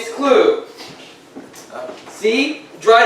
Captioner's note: assistant's footsteps